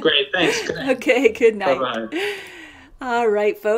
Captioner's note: laughs